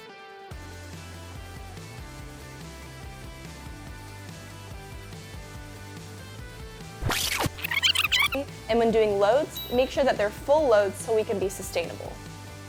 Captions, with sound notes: (Rewinding) And when doing loads, make sure they’re full loads so we can be sustainable.